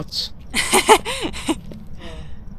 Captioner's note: laughing